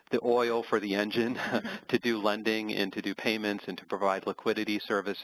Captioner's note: laugh